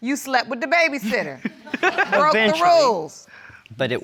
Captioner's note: audience laughs